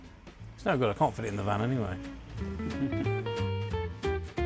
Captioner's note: laughs